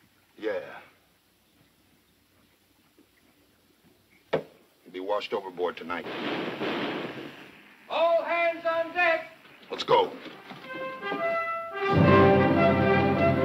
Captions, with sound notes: - Yeah. He'll be washed overboard tonight. (thudding) - All hands on deck! - Let's go. (dramatic music)